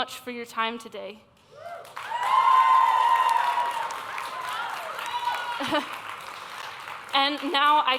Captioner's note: applause